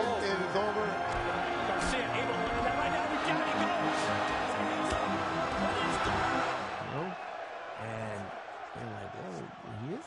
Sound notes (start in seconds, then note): 3.9 crowd cheering